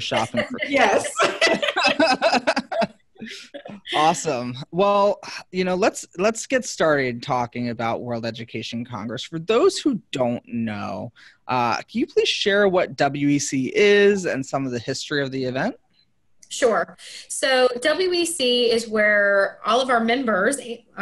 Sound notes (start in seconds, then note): 1.7 everyone laughing